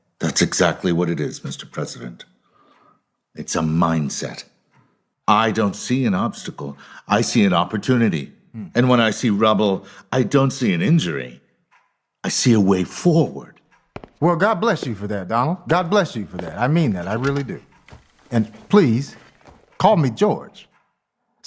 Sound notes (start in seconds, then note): 13.7 footsteps